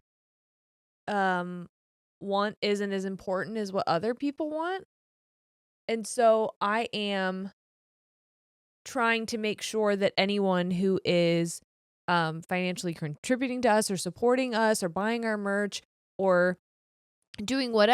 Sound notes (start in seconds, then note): none